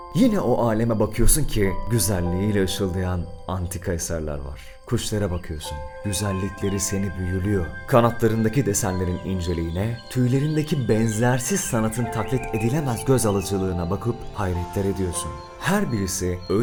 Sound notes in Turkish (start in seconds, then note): 12.7 Kuş görüntüleriyle beraber cıvıltıları da var